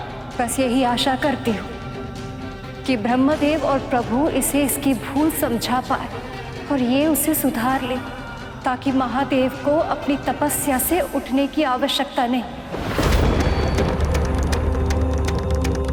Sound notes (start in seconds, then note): 12.7 thundering